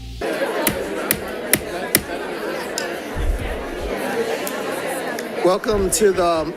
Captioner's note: crowd chattering; gavel thudding